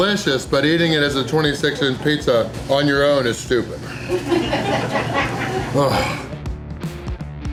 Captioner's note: crowd laughter